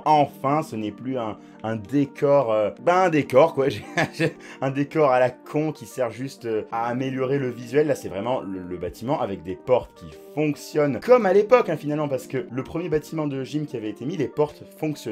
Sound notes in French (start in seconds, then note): 3.7 rire